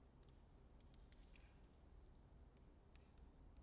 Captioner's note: flames crackling